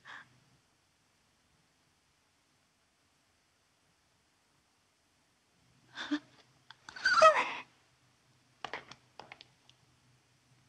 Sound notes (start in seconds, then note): 6.9 whimpering